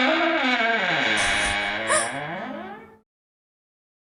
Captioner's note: lid creaking